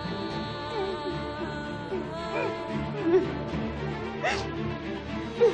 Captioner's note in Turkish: Ağlama sesi duyulur